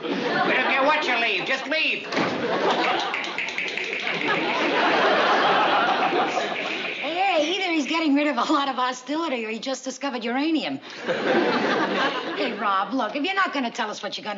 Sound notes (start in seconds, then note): 2.8 clicking rapidly